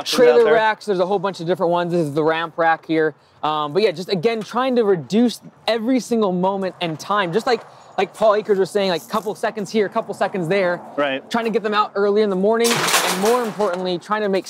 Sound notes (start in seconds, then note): 12.5 metal clanging